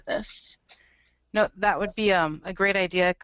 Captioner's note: voiceover